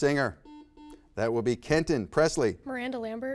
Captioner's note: buzzer beeps